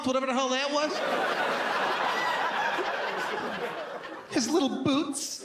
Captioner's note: audience laughs